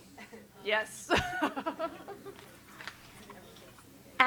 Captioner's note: chuckles